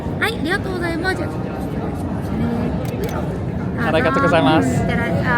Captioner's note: cast member speaking Japanese